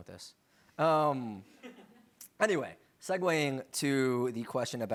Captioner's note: laughter